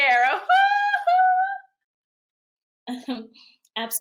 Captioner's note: chuckles